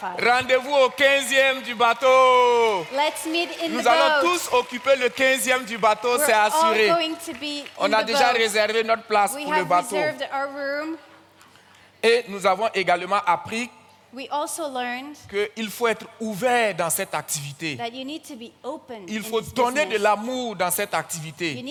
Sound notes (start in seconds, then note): 0.2 audience cheers and claps; 0.2 continues in French; 4.5 continues in French; 8.0 continues in French; 12.1 continues in French; 15.3 continues in French; 19.6 continues in French